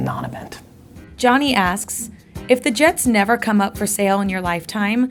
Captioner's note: voiceover